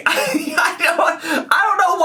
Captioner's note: laughing